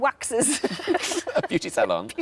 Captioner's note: laughing